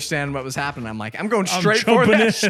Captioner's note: laughs